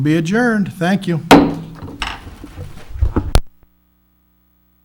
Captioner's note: gavel bangs